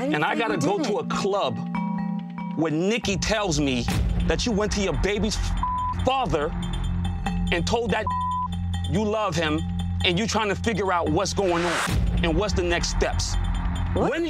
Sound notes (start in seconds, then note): 5.6 beep; 8.0 beep